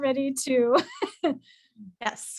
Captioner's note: laughter